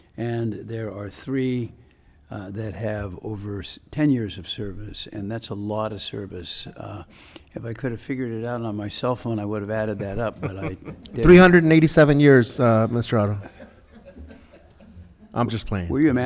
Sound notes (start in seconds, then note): 13.1 board member laughs